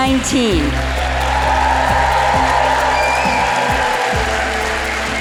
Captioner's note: crowd cheering